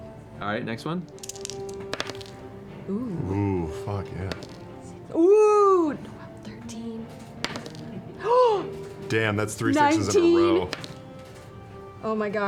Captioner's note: gasps